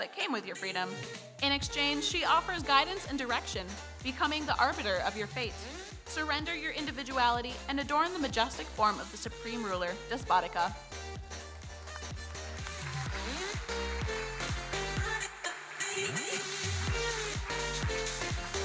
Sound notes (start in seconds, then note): 12.4 audience applauding; 15.2 electronic dance music